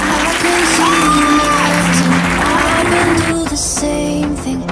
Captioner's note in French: applaudissements de fin